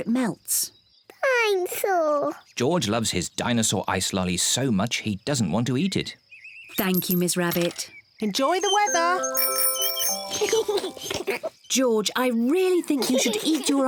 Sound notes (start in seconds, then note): 7.9 both giggle; 8.5 rings bell